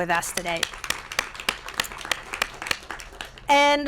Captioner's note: applause